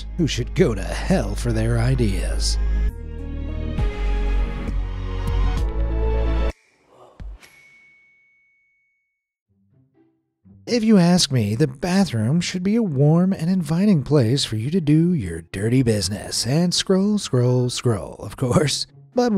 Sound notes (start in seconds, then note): 7.4 bell pings